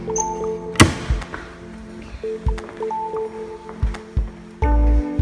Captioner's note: locker clicks shut